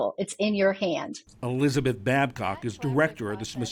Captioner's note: voice-over